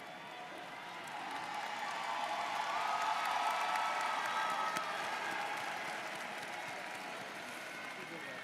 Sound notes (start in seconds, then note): 0.0 audience cheers